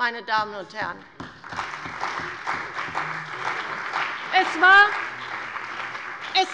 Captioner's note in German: Beifall bei der CDU und dem BÜNDNIS 90/DIE GRÜNEN